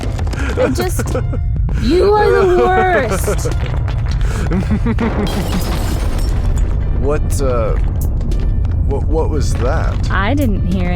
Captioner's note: A loud crash is heard